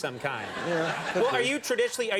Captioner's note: audience laughing